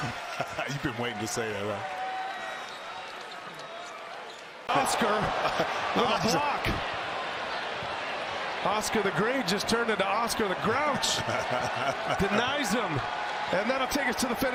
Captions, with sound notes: >> YOU HAVE BEEN WAITING TO SAY THAT ONE! [ LAUGHTER ] MICHIGAN STATE/LOUISVILLE, WITH A BLOCK! [ CHEERS AND APPLAUSE ] OSCAR THE GREAT, TURNED INTO OSCAR THE GROUCH, DENIES THEM. AND THAT WILL TAKE US TO THE FINISH LINE, THESE GREAT